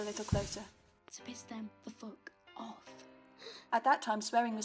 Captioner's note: Lily gasps